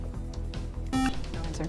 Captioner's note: buzzer